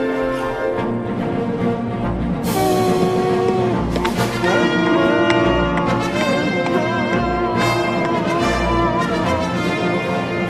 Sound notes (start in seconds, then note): 2.5 crowd cheering